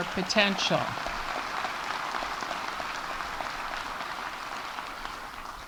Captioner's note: audience applauding